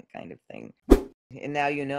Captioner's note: whoosh